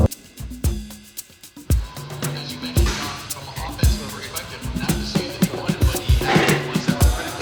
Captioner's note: intercom chattering; upbeat music